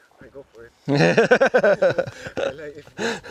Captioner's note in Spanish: risas